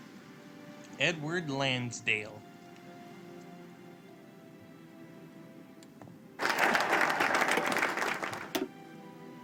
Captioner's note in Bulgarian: Аплодисменти